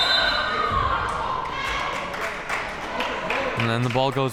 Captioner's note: whistle blowing